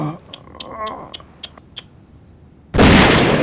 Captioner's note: clicks tongue